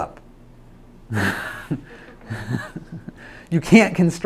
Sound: laughs

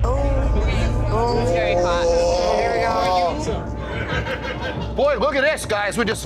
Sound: people groaning

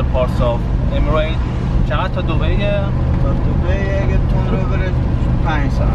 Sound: both speaking foreign language

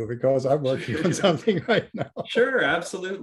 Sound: laughing

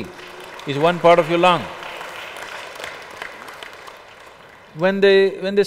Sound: applause

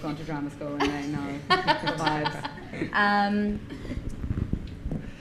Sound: laughing

